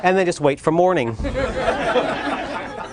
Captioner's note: laughter